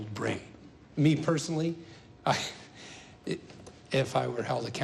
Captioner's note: laughs